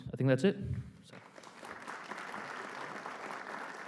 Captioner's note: applause